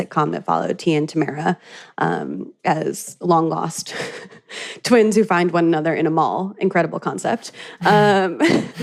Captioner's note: laughs; both laugh